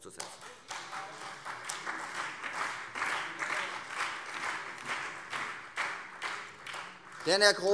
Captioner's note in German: Beifall Freie Demokraten und vereinzelt SPD